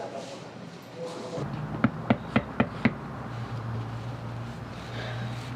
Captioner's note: knocks on door